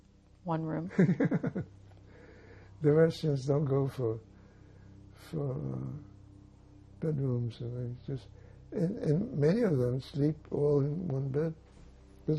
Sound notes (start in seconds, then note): 0.9 laughing